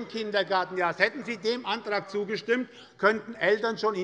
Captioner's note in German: Zurufe von der SPD